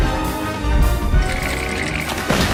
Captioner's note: teeth chattering